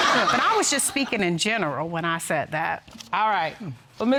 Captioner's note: audience laughing